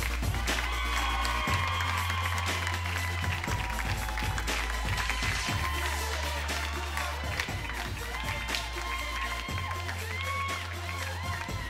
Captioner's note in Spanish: Palmadas al compás; Gritos y exclamaciones